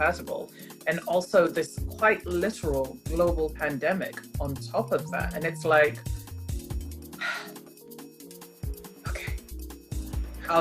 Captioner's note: big sigh